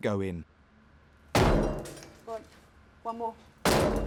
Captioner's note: breaking door